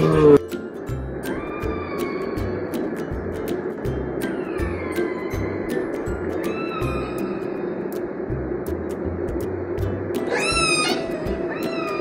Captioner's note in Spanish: sonido orca